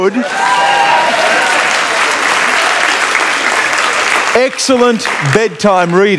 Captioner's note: cheering and Applause